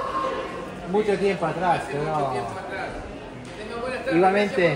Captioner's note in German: auf Spanisch